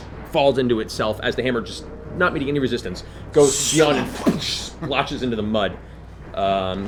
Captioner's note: impact